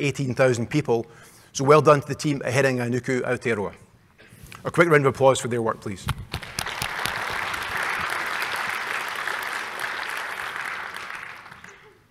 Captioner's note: clapping